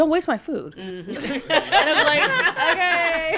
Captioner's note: podcasters laughing; laughs